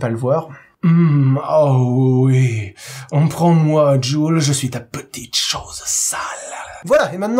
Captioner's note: sexy voice